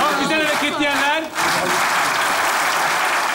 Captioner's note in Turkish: Alkış sesleri